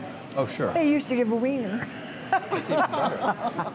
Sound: laughter

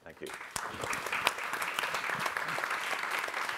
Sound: applause

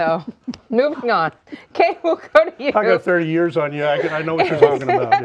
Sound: laughing

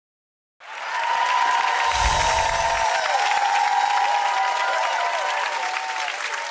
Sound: audience cheering; chimes tinkling

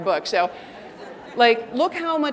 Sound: audience laughing

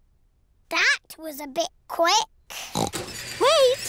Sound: oinks

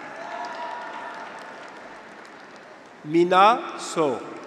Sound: graduates cheer

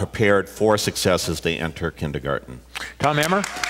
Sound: applause

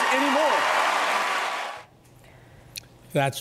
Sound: cheers and applause

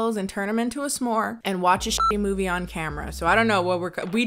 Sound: beep

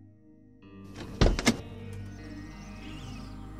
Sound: car door opens

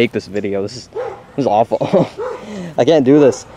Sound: laughing

